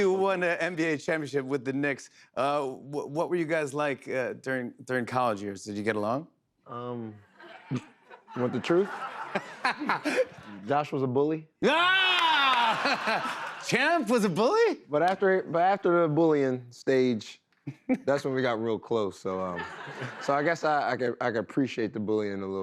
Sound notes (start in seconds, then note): 9.1 laughter; 12.6 laughs